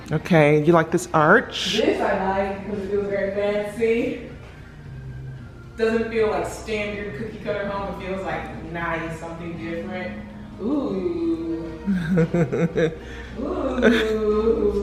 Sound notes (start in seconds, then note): 11.8 laughs